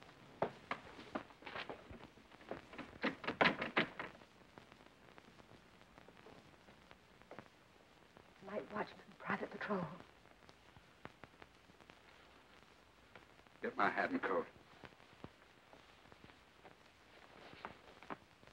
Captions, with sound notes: [door handle jiggling] Night watchman, private patrol. Get my hat and coat.